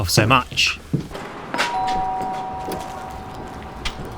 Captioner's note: FX: Door Bell